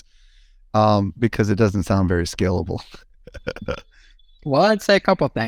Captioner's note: laughs